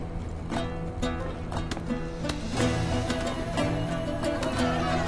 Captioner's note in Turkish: Göğüse Vurma Sesleri